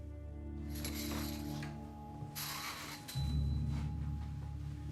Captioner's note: somber music; blinds clattering